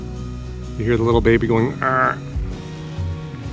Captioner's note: makes grunt noise